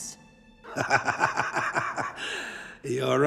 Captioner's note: laughing